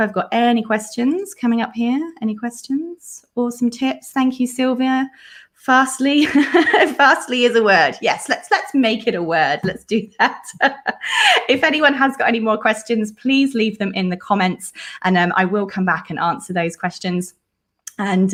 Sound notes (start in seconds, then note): 9.6 laughs